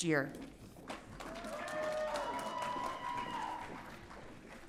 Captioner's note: audience cheering